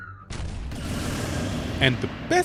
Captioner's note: explosion